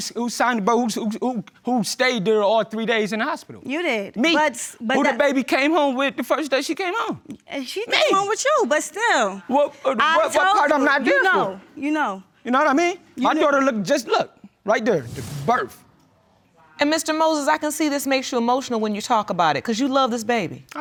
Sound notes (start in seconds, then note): none